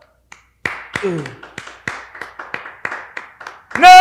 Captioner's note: applauses